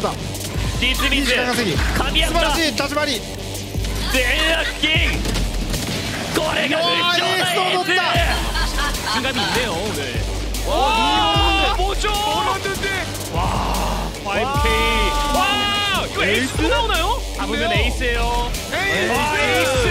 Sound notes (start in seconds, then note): 6.3 casters cheering; 9.5 speaking foreign language